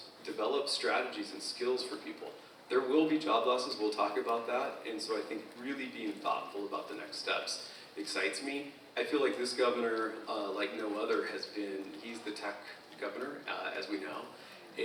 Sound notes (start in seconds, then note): none